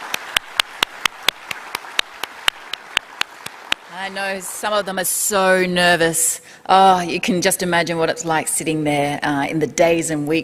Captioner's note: applause